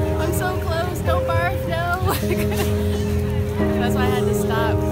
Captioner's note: laughs